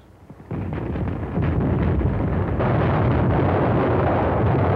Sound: explosions

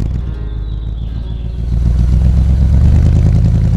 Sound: car engine

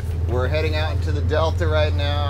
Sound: boat enging running

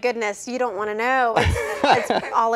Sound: laughter

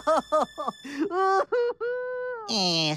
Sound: more ugly crying

